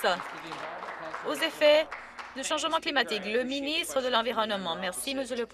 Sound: some Applause

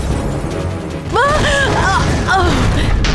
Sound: Queen groans

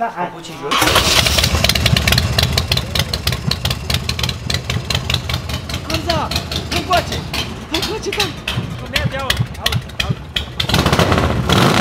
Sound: engine revs

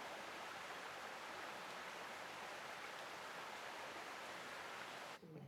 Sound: stream rushing

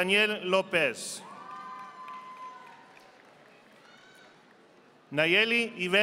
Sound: audience applauding

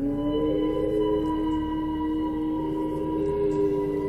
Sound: long howl

